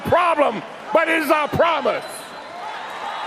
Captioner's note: chanting